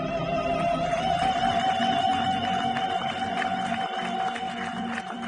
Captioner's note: audience applauds